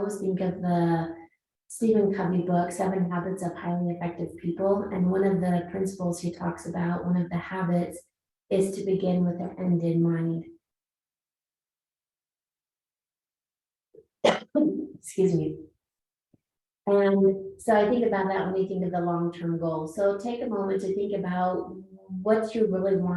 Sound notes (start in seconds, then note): 14.2 coughs